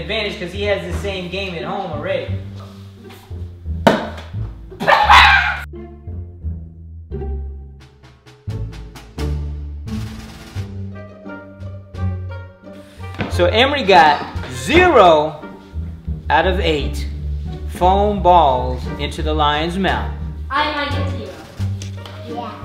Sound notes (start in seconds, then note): 4.8 laughs; 5.6 lighthearted orchestral music